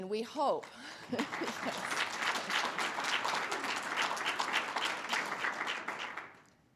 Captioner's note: audience applause